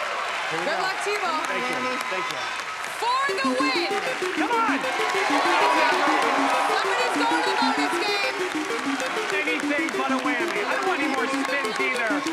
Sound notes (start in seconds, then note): 5.2 cheering